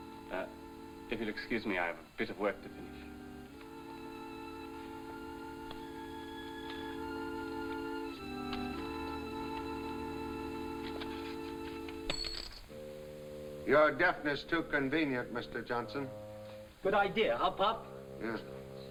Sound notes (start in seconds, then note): 12.0 coin clatters